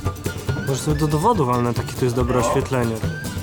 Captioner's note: speaking Polish language